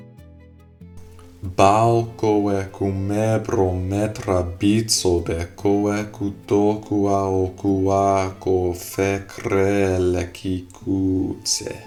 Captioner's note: speaking in reconstructed seriki